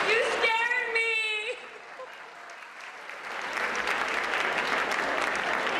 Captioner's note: applause